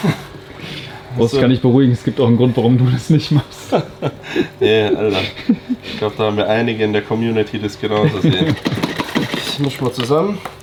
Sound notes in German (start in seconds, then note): 3.3 gelächter